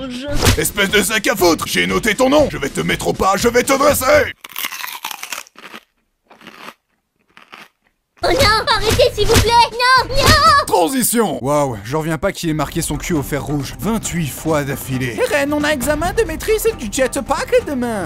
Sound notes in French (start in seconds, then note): 4.3 bruit d'aliment croquant